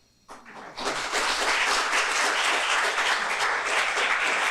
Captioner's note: audience clapping